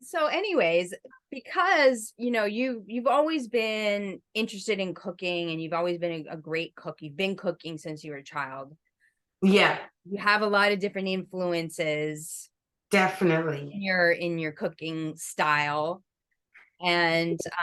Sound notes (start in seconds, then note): none